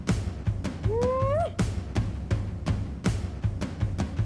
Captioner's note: whoops